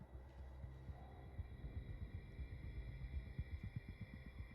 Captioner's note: none